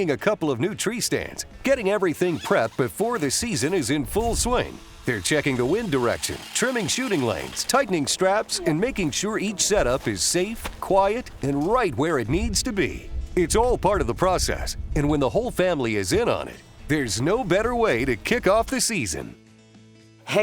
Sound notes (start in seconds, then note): 2.3 material rustling; 10.7 brush rustling